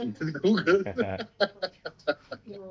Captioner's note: laughs